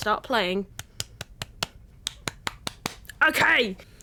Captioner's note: claps 10 times